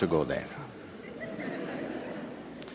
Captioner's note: laughter